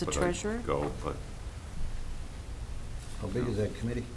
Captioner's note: mumbling